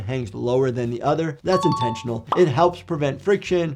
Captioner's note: alarms rings